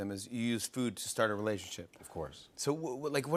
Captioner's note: none